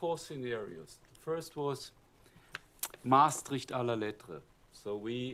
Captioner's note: german